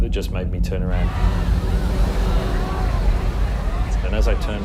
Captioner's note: loud commotion